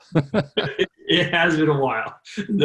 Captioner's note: laughs